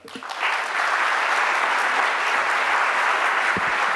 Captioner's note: audience applauding